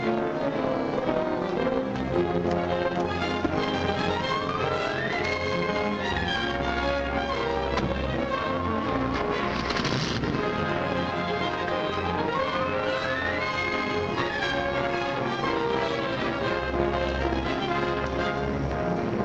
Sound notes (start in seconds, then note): 8.1 car door slams; 10.2 motor revs; 12.4 dramatic music